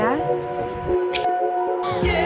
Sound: mwah

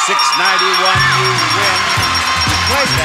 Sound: bell ringing; upbeat music

